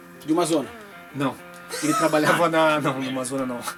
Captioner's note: laughs